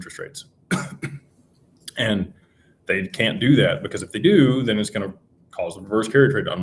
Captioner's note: clears throat